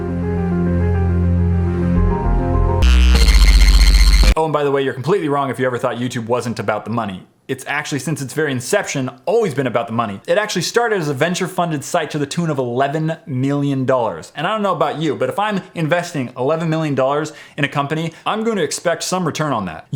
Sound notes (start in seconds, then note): 2.8 screeching effect